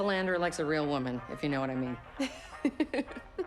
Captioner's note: laughter